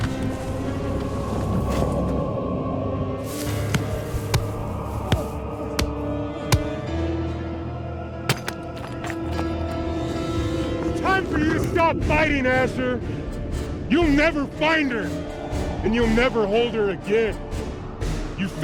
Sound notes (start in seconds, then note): 0.3 blows thudding; 0.3 eerie music; 8.3 glasses crunching